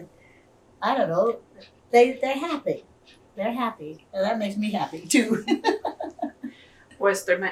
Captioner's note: laughs